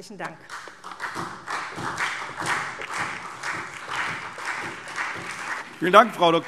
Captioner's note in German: Beifall SPD